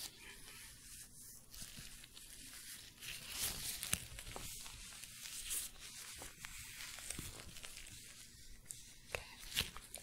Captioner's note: glove sounds, stroking bristles